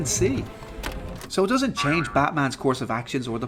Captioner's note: boing